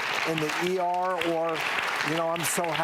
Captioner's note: audience applauds